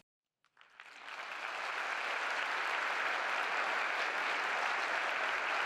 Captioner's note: applause